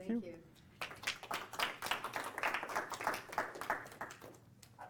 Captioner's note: applause